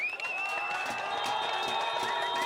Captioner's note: crowd ranting